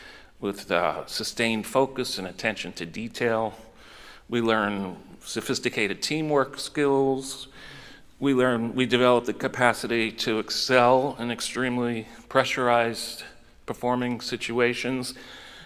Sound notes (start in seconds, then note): none